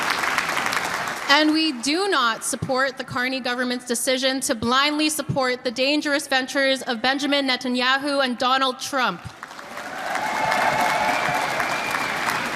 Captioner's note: applause